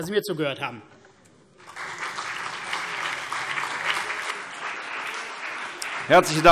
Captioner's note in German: Beifall CDU und BÜNDNIS 90/DIE GRÜNEN